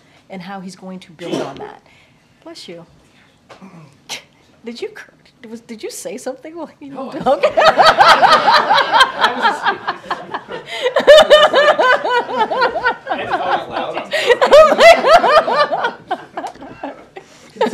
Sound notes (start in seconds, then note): 1.2 A reporter sneezes; 8.2 laughter; 16.6 laughter